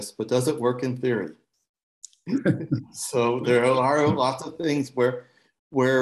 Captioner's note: laughter